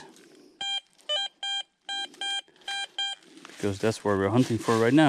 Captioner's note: metal detector beeps